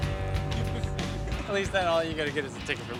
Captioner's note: laughing